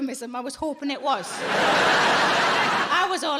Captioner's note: audience laughing